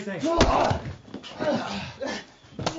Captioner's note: groaning